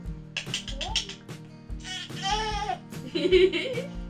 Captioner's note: baby making weird noises